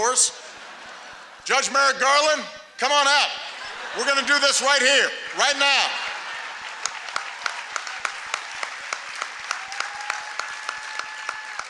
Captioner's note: laughter; applause